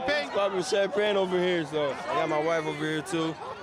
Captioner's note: cheers